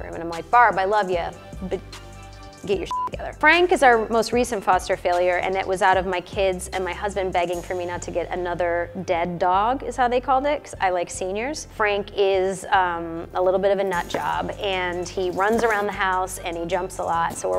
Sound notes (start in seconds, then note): 2.8 beep